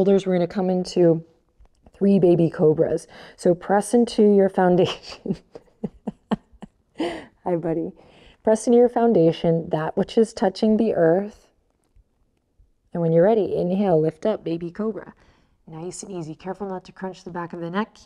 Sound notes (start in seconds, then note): 5.0 laughs